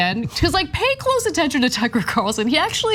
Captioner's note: laugh